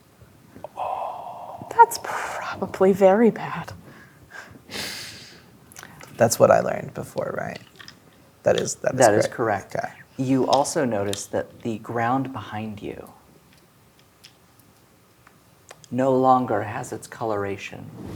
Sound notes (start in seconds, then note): 3.9 inhales